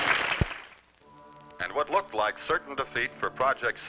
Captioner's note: radio Announcer